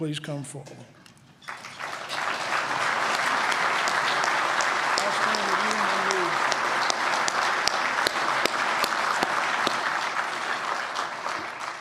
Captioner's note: applause